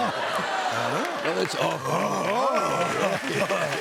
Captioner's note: both grunting; cheers and applause